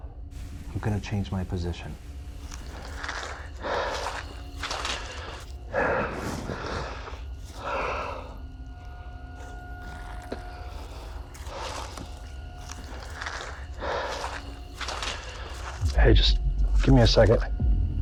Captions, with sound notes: I'm going to change my position. [HEAVY BREATHING] Hey, just give me a second.